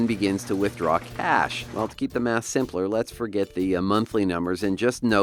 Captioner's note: ATM machine spits out money